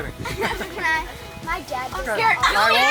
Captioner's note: group laughing